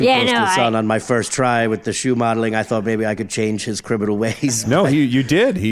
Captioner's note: laughing